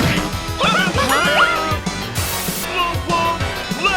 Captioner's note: villainous Laughter; cartoon Villainous Laughter